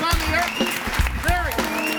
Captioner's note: audience cheers and applauds